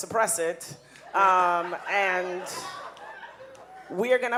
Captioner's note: audience laughing